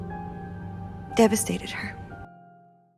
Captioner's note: voiceover